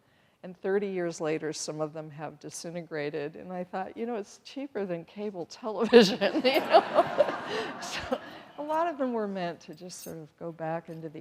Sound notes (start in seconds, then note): 6.4 everyone laughing